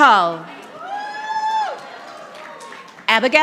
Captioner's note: audience applauding